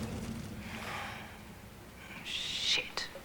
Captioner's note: sigh